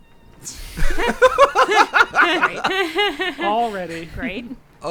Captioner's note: group laughing